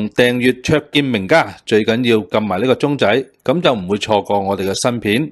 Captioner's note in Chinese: 用外語說話